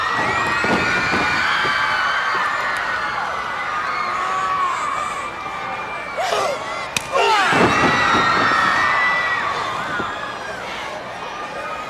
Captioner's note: crowd cheering